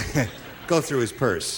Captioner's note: laughing